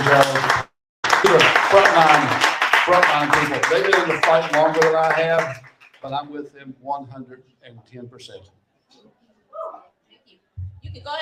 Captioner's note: cheering and applauding